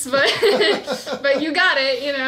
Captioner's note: laughs